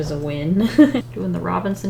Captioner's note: laughs